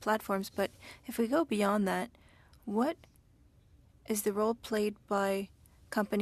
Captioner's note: speaking French